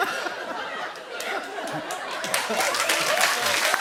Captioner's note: cheering and applause